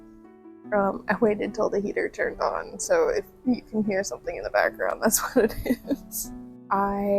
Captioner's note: laughter